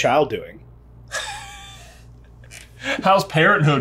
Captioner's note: laughing